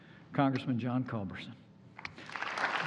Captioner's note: applause